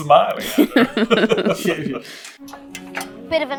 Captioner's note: smarmy chuckle